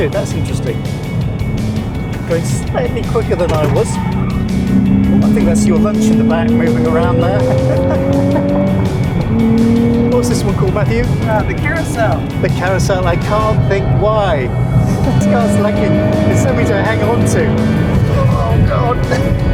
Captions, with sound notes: that's interesting. Slightly quicker than I was. I think that's your lunch in the back moving around there. - (Laughter) What is this one called, Matthew? - The Carousel. The Carousel. I can't think why. If this goes like this I will need something to hang on to. Oh God.